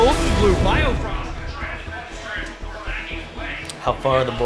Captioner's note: commentators over office speakers